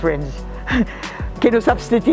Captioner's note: chuckles